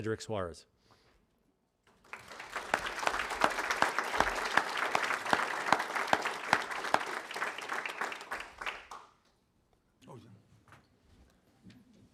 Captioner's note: applause